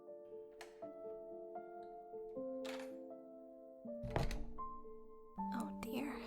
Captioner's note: door opens and closes